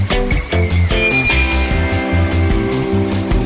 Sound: ding

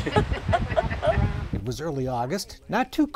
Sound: laughter

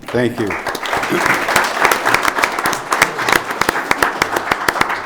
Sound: audience applauding

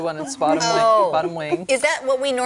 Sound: laughter

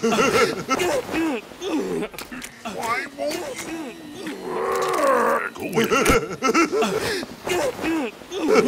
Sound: Giorno getting assaulted noises

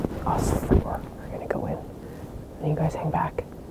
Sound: whispering

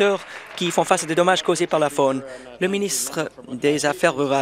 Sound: applause

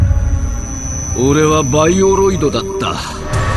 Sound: robotic voice

